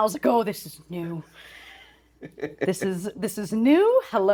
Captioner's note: laughing